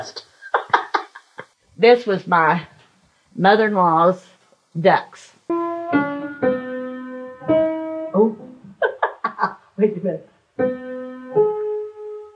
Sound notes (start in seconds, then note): 0.4 laughs; 5.4 piano notes; 8.7 chuckles; 10.5 piano notes